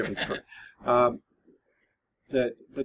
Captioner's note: laughs